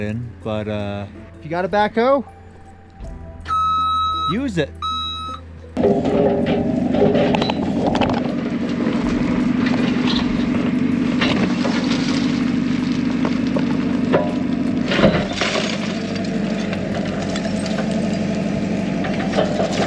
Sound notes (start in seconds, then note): 3.5 backhoe beeping; 5.7 metal rumbling; 5.7 soil rustling